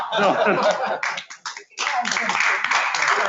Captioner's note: laughs; audience clapping